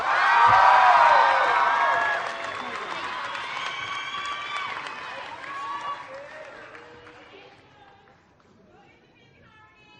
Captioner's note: applause